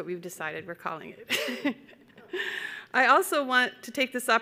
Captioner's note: chuckling